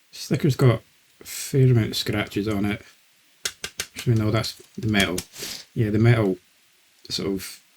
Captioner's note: knocking noises